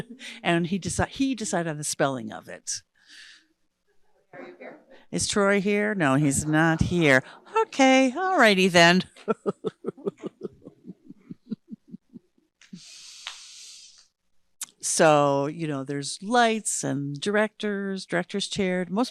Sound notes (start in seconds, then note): 9.1 laughing